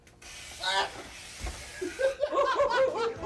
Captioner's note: electrical buzzing; worker yelping; Doink and Dink laughing